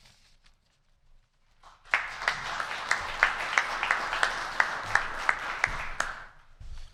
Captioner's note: applause